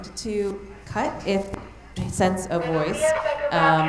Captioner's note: mic cutting out; intercom announcing